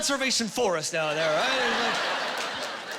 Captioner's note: laughing